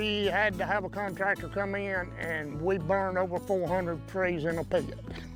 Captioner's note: laughs